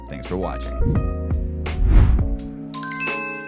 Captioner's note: mellow music ending; air whooshing; bell dinging